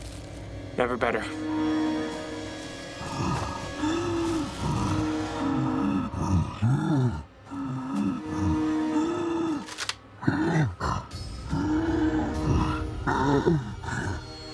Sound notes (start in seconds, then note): 3.0 loud breathing